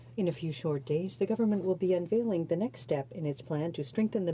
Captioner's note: speaking in french